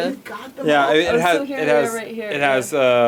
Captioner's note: group chatting